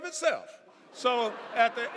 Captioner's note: audience laughing